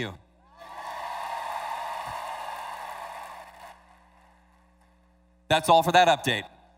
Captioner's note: cheers